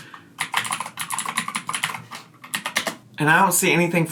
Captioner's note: keys clacking